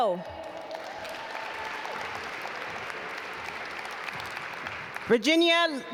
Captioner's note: audience applaud